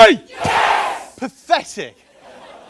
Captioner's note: crowd yells